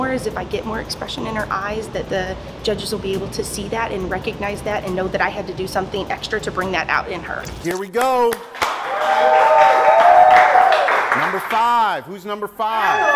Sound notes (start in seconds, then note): 8.6 cheering